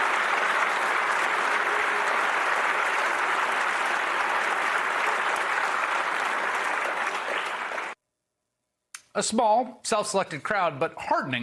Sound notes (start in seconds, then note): 0.0 applause